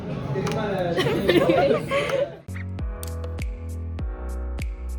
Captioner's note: laughs